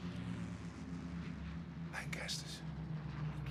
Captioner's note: plane engine roars